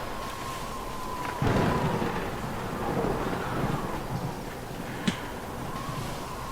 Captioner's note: thunder cracks